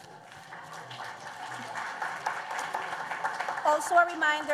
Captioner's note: applause